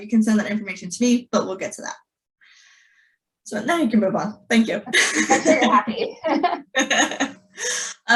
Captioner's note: laughter